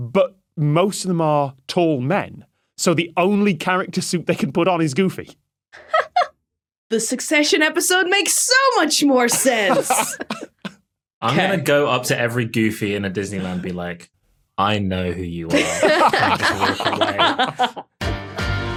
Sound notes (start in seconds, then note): 15.5 others laughing